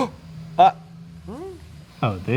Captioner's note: gasps